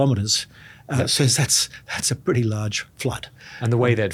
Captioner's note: laughs